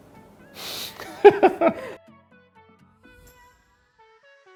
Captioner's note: laughs